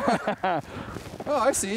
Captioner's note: chuckles